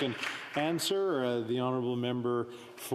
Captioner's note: speaking Indigenous Language